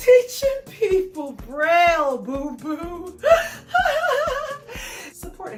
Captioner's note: laughs